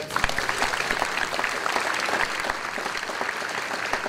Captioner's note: audience applause